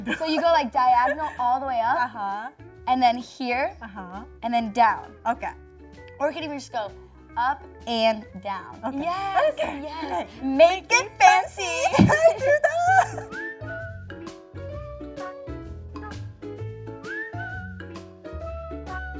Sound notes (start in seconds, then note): 11.7 laughs; 13.4 cheerful music